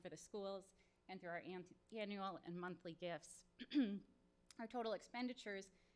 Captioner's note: clears throat